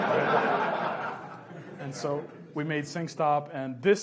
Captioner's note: audience laughs